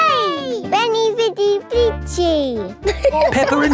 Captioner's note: all laughing